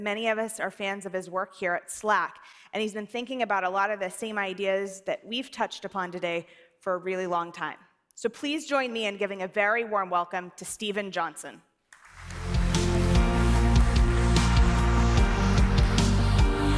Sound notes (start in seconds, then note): 11.9 audience applauding